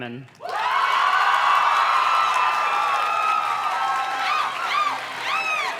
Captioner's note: audience cheers and claps